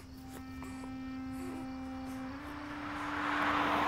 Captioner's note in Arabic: مرور السيارة